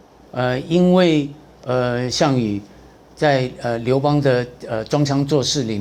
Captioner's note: speaking in Chinese